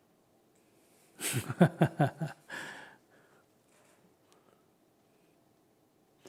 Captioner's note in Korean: 스님 웃음